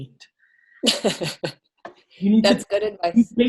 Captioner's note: laughs